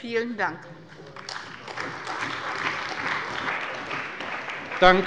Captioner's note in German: Beifall bei der CDU und dem BÜNDNIS 90/DIE GRÜNEN